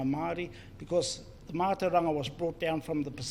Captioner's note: foreign Language